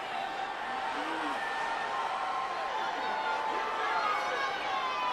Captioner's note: audience cheers